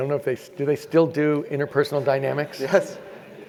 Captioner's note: laugh